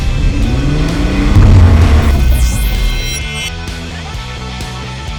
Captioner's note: engine revving